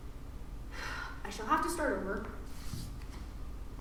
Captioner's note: sigh